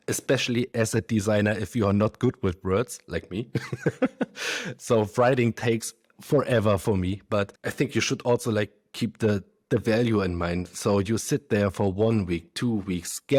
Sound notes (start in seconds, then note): 3.5 laughs